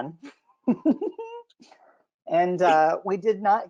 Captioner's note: both laugh